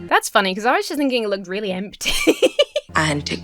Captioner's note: Emma laughs